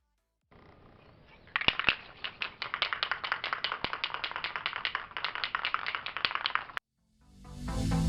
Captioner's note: satisfying clacky can shaking noises